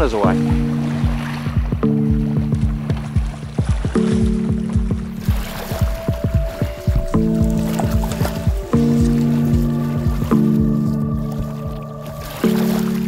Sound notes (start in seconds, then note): 2.2 journey music; 4.5 paddling